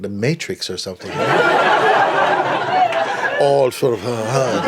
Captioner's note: laughter